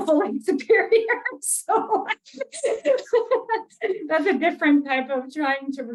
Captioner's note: laughs